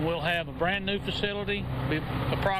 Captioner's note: sound of track hoe moving positions